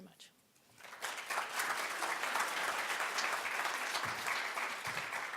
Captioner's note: audience applauding